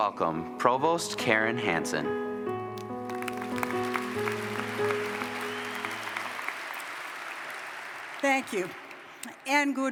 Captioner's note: applause